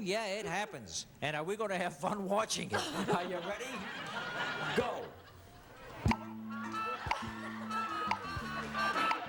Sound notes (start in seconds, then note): 2.7 laughter; 6.0 music playing, clock ticking